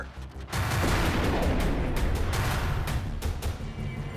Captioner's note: gun shot